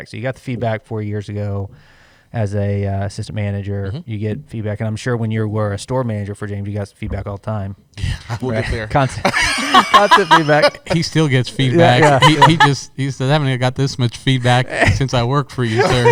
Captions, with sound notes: You got the feedback four years ago, as a assistant manager, you get feedback. I'm sure when you were a store manager for James, you got feedback all the time. -Yes. -Constant feedback. [laughter] He still gets feedback. He said, "I haven't got this much feedback since I worked for you, sir.”